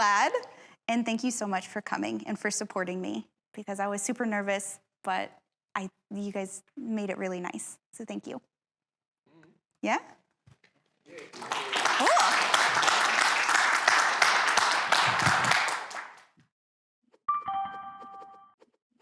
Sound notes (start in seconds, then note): 11.0 applause